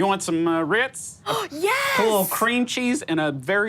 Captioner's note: gasps